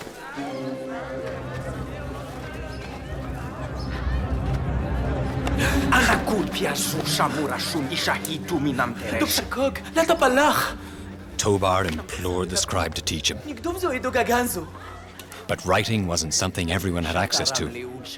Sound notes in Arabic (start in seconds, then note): 5.9 الصوت المنطوق البدوي